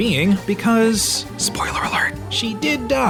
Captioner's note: whispers